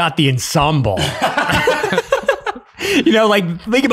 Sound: group laughing

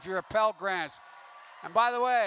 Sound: applause

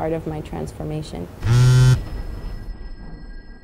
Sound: cell phone buzz

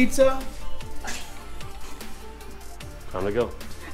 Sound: laughs

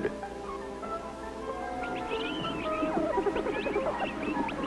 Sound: chick sounds

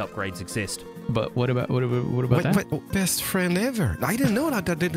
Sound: stammers

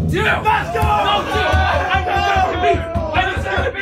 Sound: all cheering; all chattering

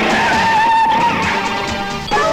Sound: brakes squeal

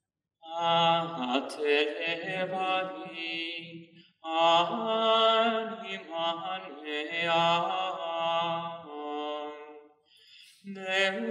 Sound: chant

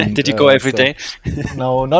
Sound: laughing

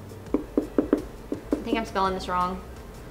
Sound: tapping sound

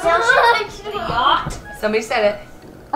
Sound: laughs

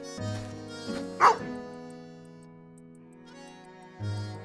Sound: bark

